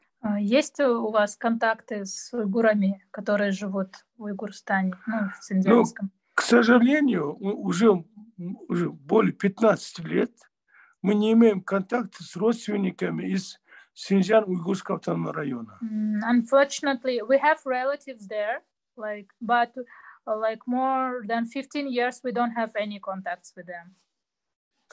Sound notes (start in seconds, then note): 1.4 asking question in Russian to father; 10.4 in Russian